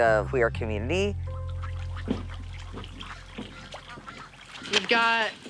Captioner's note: ducks quietly quacking